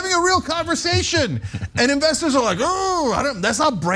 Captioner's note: laugh